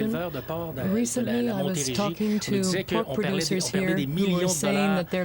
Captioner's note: speaking french